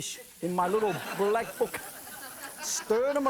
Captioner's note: audience laughing